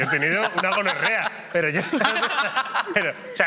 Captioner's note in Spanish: todos ríen